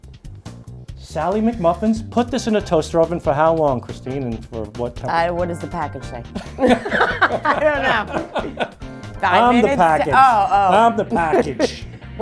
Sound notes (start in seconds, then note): 8.2 laughter